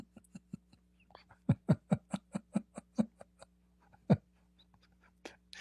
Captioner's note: Ketawa